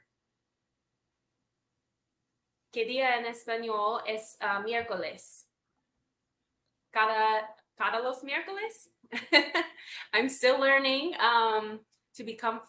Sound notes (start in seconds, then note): 6.0 speaks Spanish; 9.1 laughs